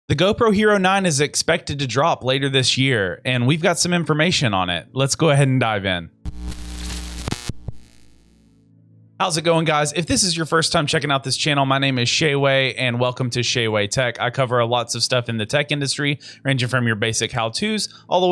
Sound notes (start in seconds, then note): 6.2 static crackling